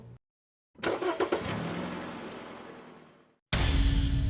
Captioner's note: car drives away